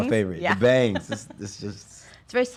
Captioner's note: laughs